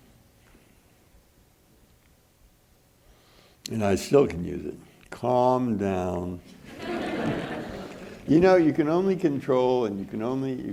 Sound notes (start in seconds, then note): 6.6 audience laughing